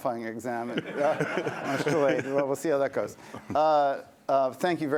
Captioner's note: laughter